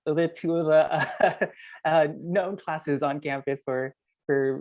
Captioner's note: laugh